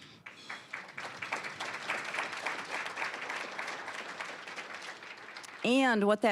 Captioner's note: applause